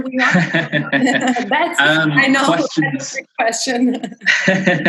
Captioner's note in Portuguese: risos